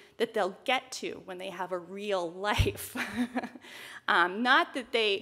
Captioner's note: chuckles